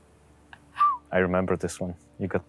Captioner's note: whistles